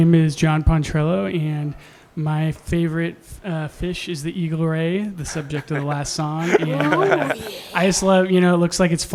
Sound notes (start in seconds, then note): 7.1 laughs